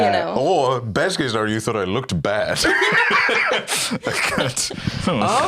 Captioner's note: laughs